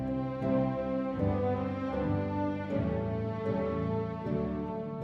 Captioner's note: none